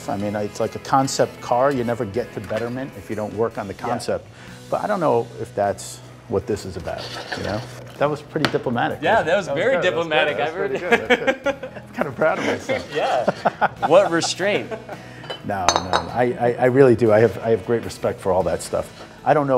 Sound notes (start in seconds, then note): 13.5 laughing